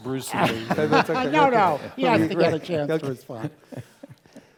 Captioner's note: laugh